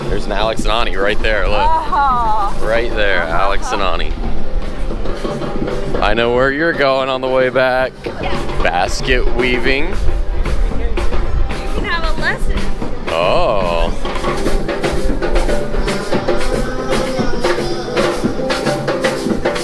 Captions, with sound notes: - There is Alex and Ani, right there. Look. - Oh. (giggles) - Right there, Alex and Ani. I know where you're going on the way back, basket weaving. - I think we have a lesson. - Oh. (drums beats)